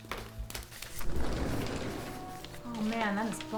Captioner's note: screen door opens